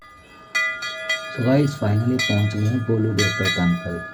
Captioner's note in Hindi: घंटी की आवाज़